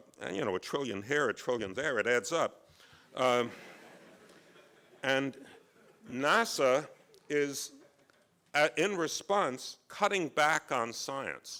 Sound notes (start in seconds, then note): 2.6 laughs